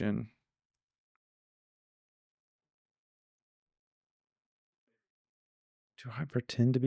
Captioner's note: silence